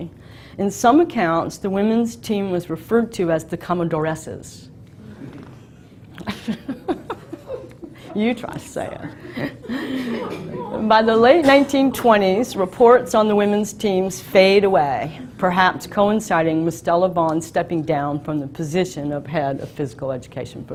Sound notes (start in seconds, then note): 6.1 chuckles